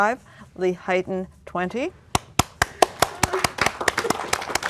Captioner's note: applause